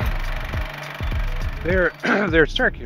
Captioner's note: film reel clicks